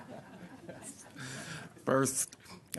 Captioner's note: laughter